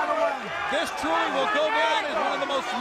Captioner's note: crowd chatter